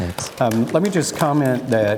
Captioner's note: audience applause